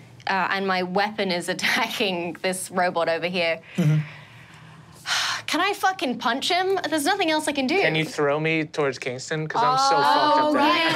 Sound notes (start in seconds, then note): 3.7 sighs in exasperation; 10.6 laughs